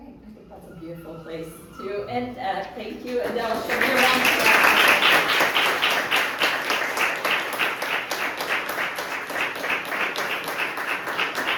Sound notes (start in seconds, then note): 4.7 audience clapping drowns out speaker